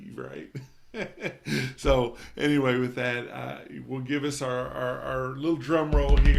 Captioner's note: chuckles